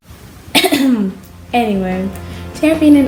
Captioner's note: coughs